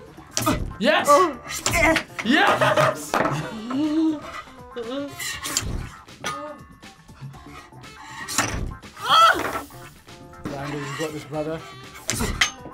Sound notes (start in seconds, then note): 3.7 laughs